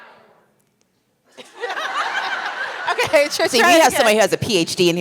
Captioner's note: laughter